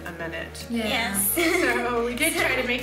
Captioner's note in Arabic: يضحك